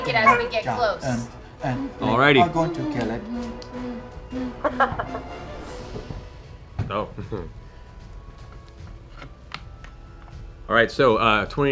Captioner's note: chuckles